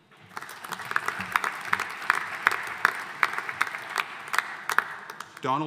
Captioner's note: audience applauding